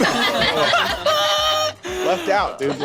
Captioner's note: laughs